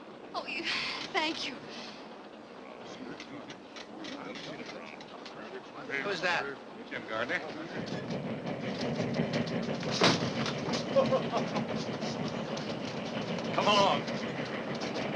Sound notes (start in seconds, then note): 9.8 door slams shut; 10.9 Mr. Gardner laughs